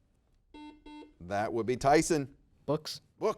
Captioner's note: buzzer dings